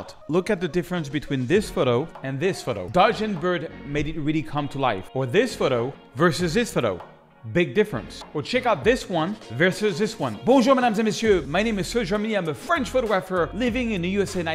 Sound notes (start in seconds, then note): 10.5 speak in French